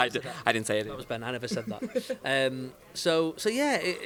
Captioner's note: laughing